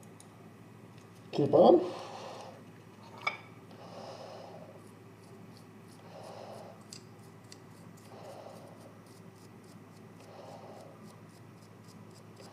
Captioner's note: heavy breathing for asrm purpos